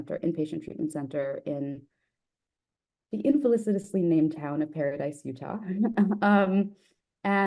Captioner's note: laughs